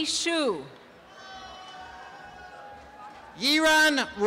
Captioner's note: applause and cheering